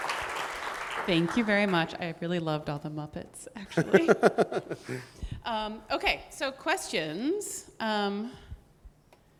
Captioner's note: laughs